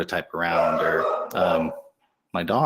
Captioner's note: dog barking